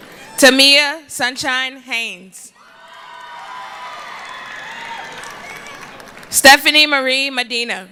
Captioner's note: cheering